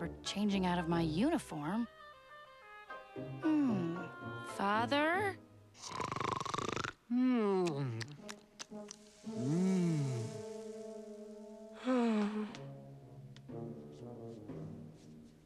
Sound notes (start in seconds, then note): 5.8 snoring; 11.7 sighs